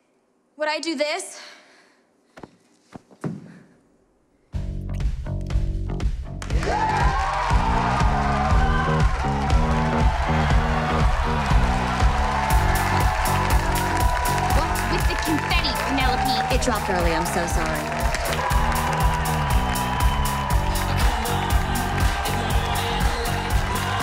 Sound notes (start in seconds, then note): 4.3 upbeat rock music; 7.1 cheers and applause